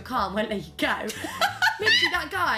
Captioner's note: laughs